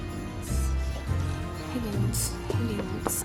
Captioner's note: whispering to self